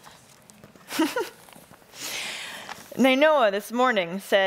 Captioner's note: laughing